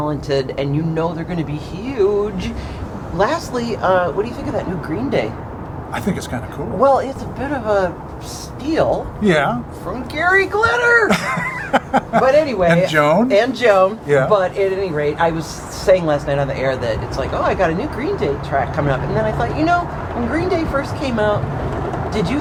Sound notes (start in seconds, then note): 10.8 laughing